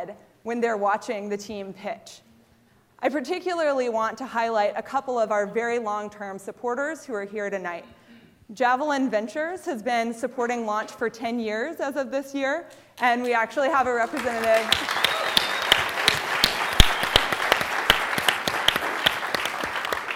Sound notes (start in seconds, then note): 14.0 applause